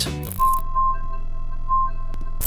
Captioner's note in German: Piepsen